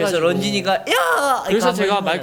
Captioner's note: voice crack